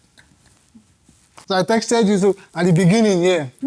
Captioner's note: laughs